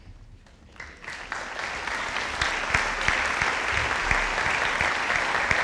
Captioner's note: audience applauding